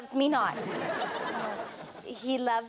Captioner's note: audience laughs